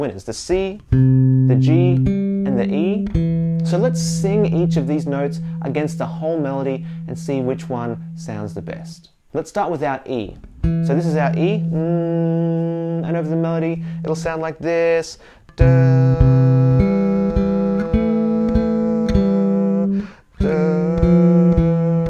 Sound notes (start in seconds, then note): 10.5 hums E; 15.5 plays melody while humming